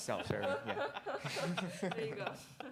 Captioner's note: laughter